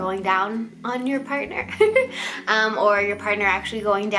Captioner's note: chuckles